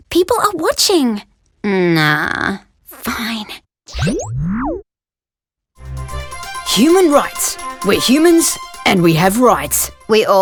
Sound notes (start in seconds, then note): 3.3 whispers; 5.8 newscast music